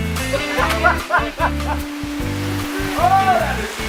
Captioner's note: laughing